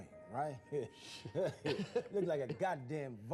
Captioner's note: laughing